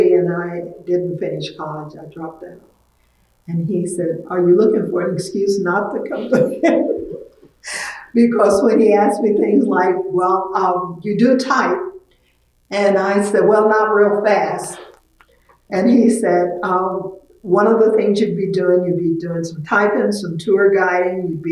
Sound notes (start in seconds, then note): 8.0 laughs